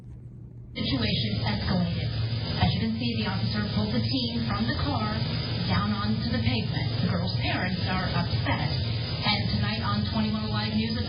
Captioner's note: "21Alive News at 4" plays in background